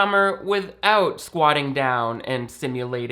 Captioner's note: none